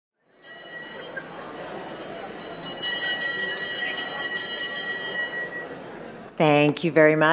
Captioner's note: bell ringing